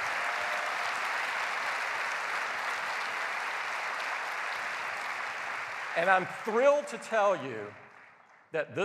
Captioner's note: applause